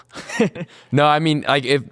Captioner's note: laughs happily